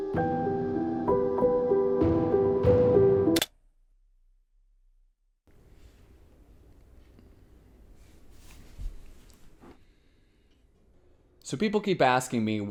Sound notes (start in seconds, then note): 0.1 ominous music; 3.7 clicking